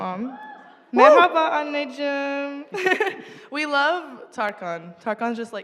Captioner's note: turkish speech